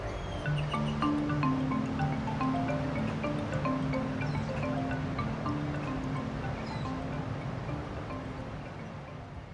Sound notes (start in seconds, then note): 0.8 birds chirping